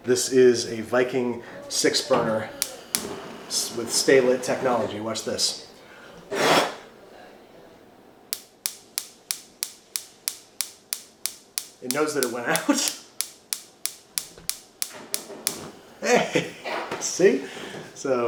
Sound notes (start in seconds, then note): 6.6 blows; 8.3 Viking lighter firing; 13.8 laughs; 16.0 laughs